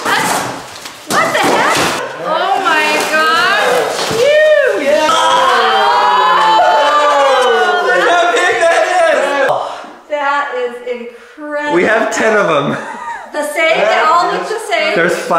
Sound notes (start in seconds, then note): 4.1 everyone cheering